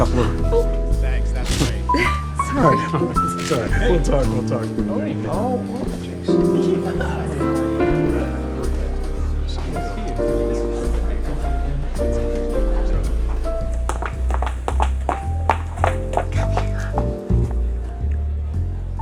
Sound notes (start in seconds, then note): 5.3 chattering continues